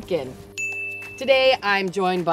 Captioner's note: bell rings